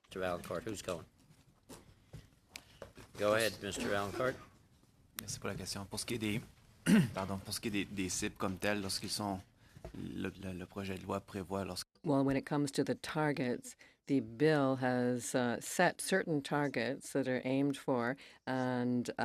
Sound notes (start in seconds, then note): 12.0 speaking French